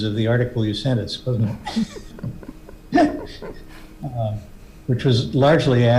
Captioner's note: members laughing